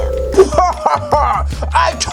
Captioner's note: laughs